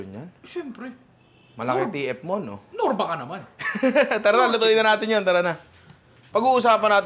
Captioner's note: laughs